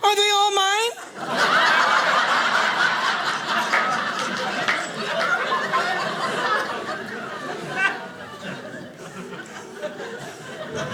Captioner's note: audience laughing